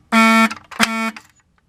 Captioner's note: fire beeper stops again